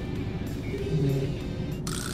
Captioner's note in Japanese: 電話のコール音